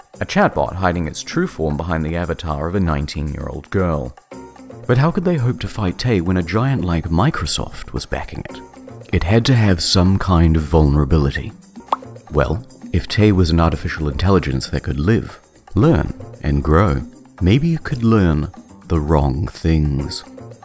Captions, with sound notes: A chatbot hiding its true form behind the avatar of a nineteen-year-old girl. But how could they hope to fight tay When a giant-like Microsoft, was backing it It had to had some kind of vulnerability. *POP* Well, if Tay was an artificial intelligence that could live, learn, and grow maybe you could learn the wrong things.